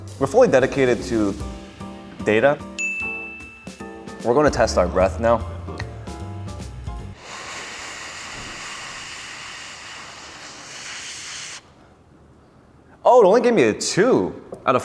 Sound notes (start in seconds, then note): 6.9 blowing deeply